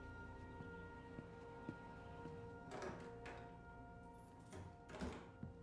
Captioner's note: door opens, keys jingle, door closes